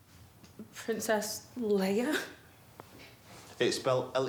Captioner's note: laughs